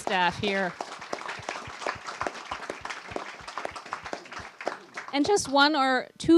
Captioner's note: applause